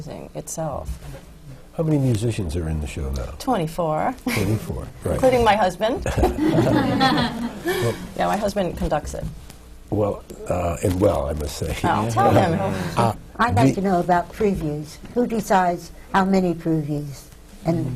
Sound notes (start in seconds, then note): 6.0 laughter; 6.0 laughs